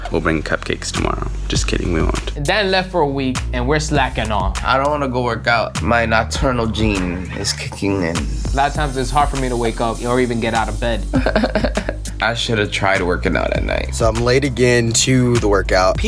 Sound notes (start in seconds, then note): 11.1 fake crying